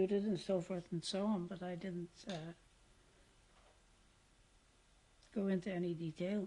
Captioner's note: pauses for 3 seconds